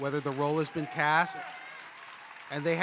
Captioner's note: audience applauding